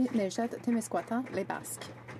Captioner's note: speaking French